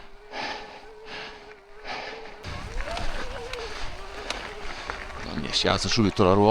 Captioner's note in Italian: sbuffare